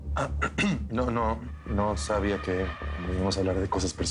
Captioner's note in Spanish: Carraspea